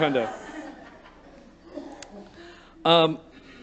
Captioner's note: light Laughter